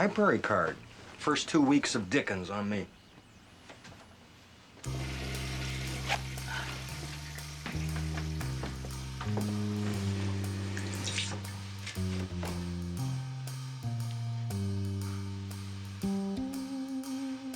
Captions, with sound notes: - A library card. First two weeks of Dickens, on me. (toilet flushing) (door opens)